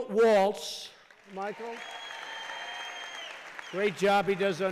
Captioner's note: applause